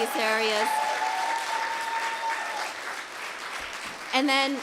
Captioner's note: applause